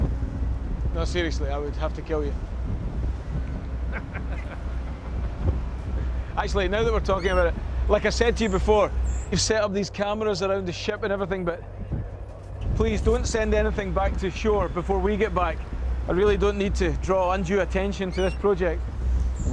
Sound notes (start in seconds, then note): 3.5 laughs